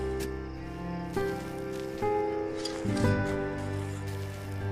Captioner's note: shovel scraping